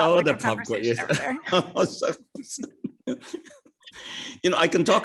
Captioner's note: laughing